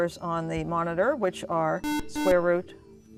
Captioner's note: beeping